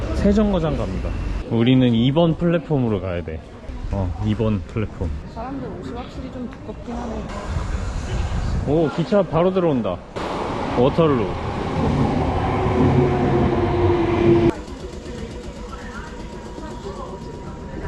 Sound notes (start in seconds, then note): 12.2 loud train sound